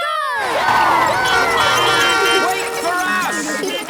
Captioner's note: beeping; laughter